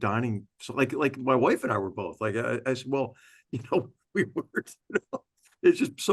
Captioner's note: laugh